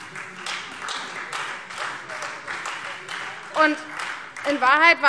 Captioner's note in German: Beifall Freie Demokraten